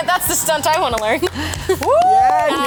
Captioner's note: actors clap and cheer